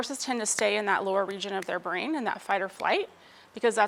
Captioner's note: clapping hands